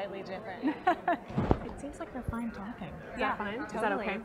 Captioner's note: laugh